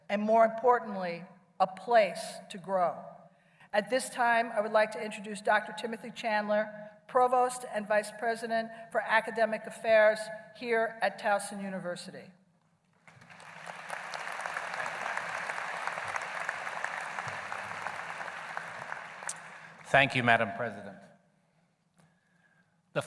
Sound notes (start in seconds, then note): 13.0 applause